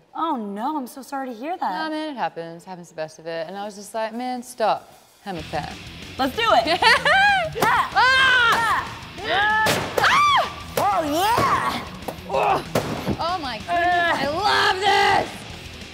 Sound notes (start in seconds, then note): 6.5 laughs; 7.0 both yell as rock music plays